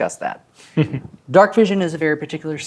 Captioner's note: chuckles